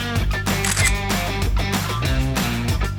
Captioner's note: camera shutter clicks